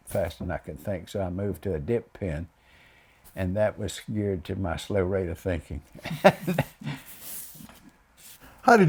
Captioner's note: laughs